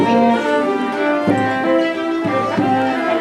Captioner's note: Lignière whispering